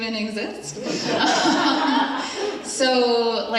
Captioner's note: attendees laughing